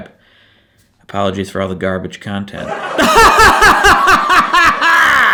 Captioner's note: laughs